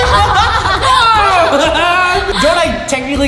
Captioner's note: laughing